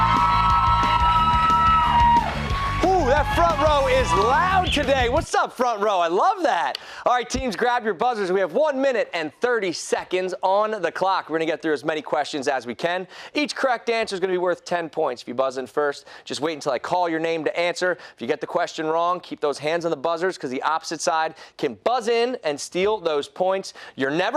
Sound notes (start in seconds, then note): 5.1 cheers and applause